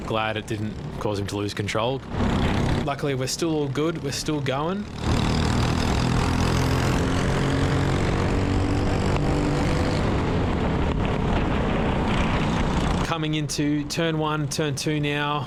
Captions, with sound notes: Glad it didn't cause him to lose control. Luckily we're still all good, we're still going. (engine revving) Coming into turn one, turn two now.